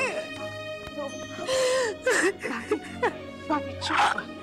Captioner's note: Bani crying